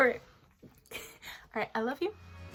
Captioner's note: giggle